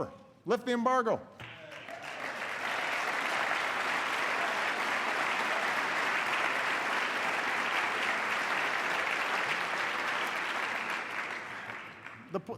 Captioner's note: applause